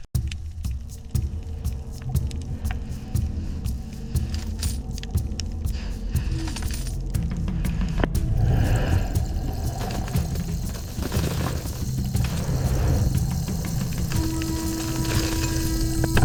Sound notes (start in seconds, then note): 0.0 background music; 4.8 water splashing